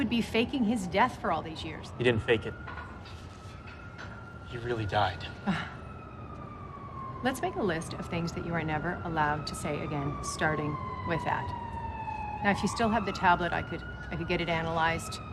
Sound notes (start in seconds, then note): 5.4 chuckles